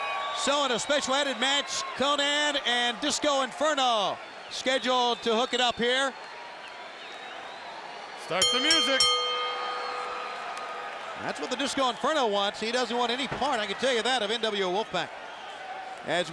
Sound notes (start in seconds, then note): 8.4 bell rings